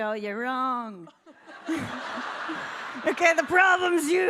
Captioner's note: audience laughing